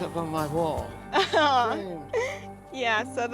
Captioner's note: laughs